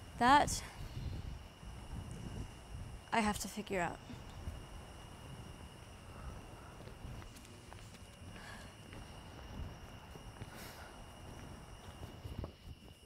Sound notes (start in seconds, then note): 6.4 soft footsteps, a gentle breeze and crickets